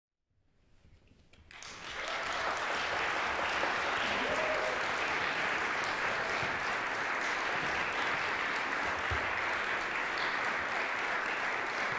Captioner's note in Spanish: publico aplaudiendo